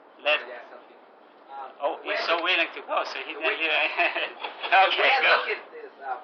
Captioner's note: gülüyorlar